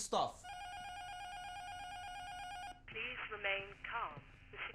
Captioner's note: intercom buzzer rings; intercom